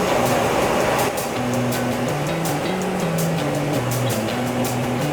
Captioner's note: grinding; upbeat rock music